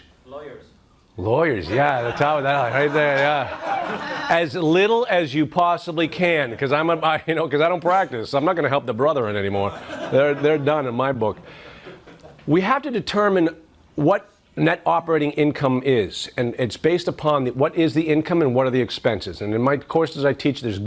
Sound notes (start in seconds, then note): 1.6 laughs